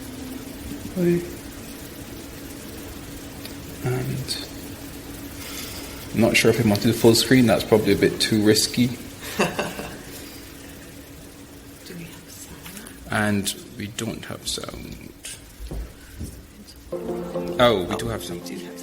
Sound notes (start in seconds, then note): 9.2 laughter; 16.9 upbeat electronic music